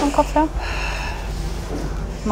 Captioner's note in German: Schweres Atmen